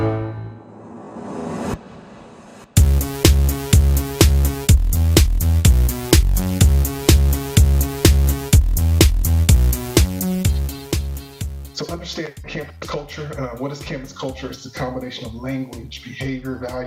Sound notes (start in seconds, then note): 0.6 air whooshing; 3.1 upbeat music